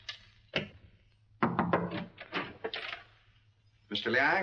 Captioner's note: knocking on door; door opens